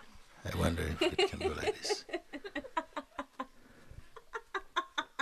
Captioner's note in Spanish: risas